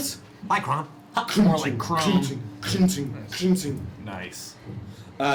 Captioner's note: heavy, metallic footsteps